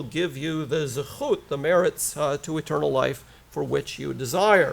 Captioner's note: foreign language